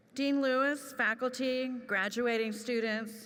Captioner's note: none